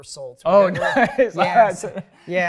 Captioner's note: laughs